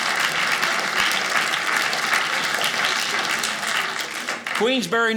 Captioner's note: audience laughing; audience clapping